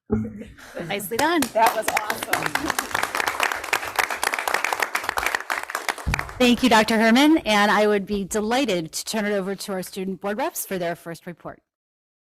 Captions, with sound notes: >>Nicely done. >>That was awesome. (board members clapping) >>Thank you Dr. Herrmann, and I would be delighted to turn it over to our student board reps for their first report.